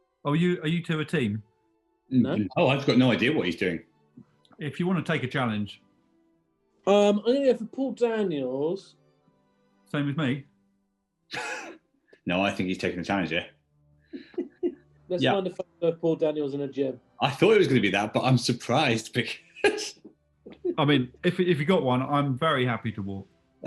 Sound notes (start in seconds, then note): 11.4 sniggering; 14.1 giggling